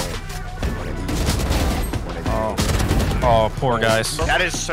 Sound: guns firing

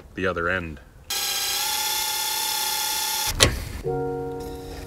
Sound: drilling noise

